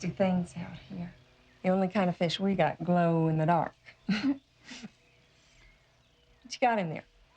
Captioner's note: laughs